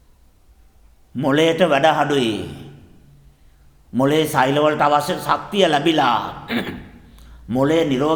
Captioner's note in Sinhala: උගුර කෑරීම